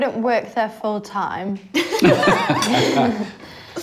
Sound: laughs

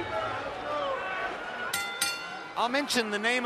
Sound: bell rings

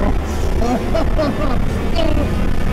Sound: groans

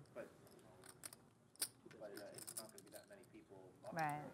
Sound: voiceover

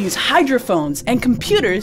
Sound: water splash

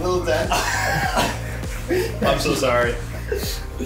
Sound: everyone laughs

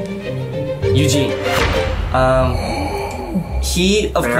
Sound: gasping

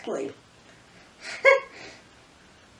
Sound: chuckles

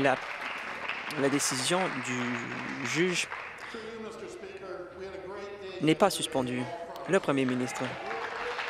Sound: applause

